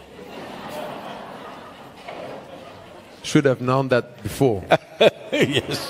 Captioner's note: laughter; Sadhguru laughs; laughs